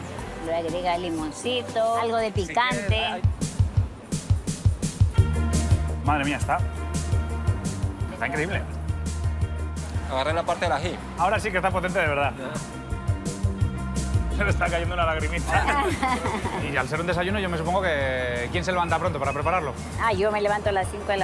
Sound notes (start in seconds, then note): 15.4 laughs